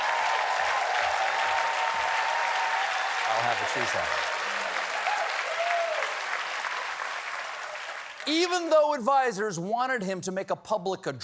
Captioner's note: cheers and applause